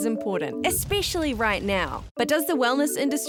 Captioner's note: fire burning